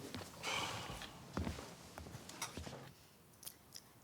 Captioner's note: Alex sighs